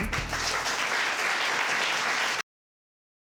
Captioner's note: audience clapping